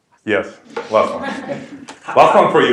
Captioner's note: laugh